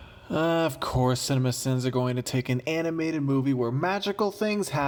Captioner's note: sigh